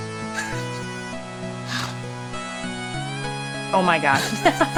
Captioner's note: laughs